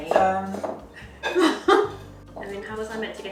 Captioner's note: chuckles